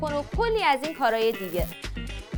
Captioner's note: lamp Buzzing